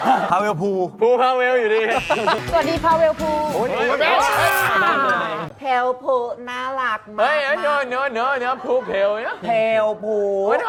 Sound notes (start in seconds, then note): 4.0 rages